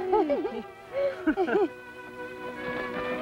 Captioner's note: laughter